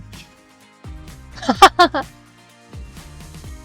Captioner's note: laughing